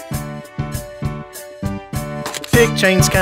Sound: SFX: Camera Shutter

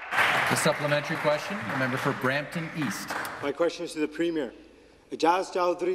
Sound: some Applause

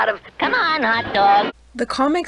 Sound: laugh track

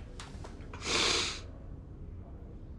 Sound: sniffles

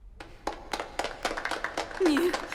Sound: scattered applause

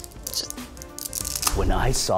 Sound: cracking

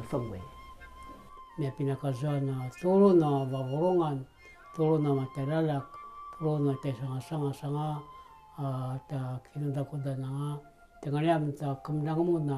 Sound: in Indigenous language

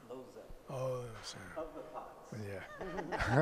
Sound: laughs

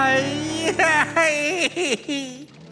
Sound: crying

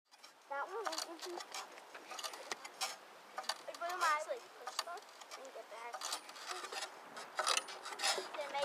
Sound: spring squeaking

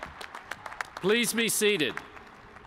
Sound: cheers and applause

